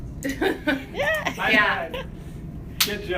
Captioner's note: laughing